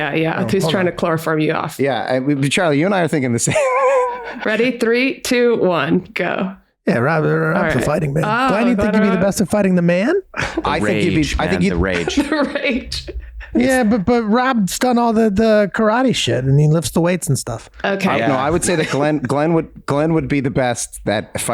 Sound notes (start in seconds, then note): 3.4 chuckles; 11.5 laughs